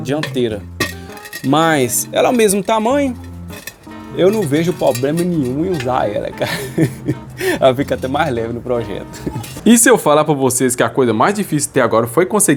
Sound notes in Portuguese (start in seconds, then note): 6.4 risadas